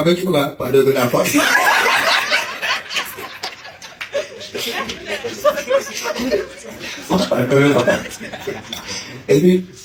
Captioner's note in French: rires